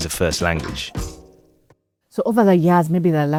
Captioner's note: a dissatisfied error beep